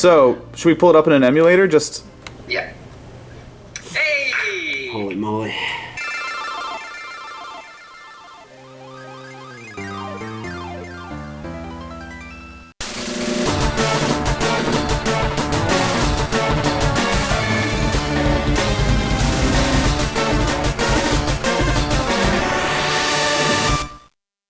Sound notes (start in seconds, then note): 6.0 shooting star